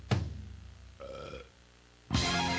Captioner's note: drum solo; burp; guitar outro